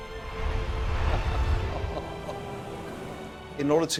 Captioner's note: laughing